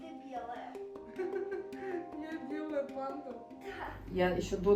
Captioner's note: laughs